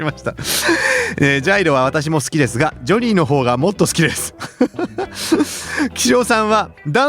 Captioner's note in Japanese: 笑い